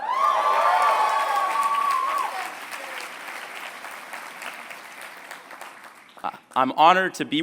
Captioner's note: applause